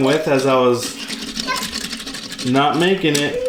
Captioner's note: toy bus clattering